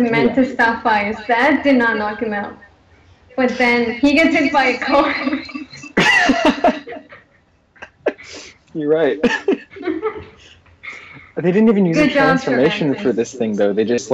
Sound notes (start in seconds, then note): 5.0 bursts into laughter